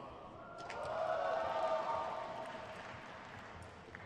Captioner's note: crowd cheers